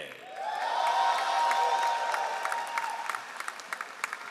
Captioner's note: all applauding